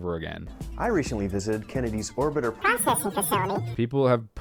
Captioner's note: high pitched voice